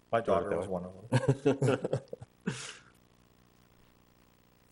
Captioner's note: laughs